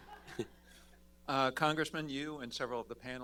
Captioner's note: laughter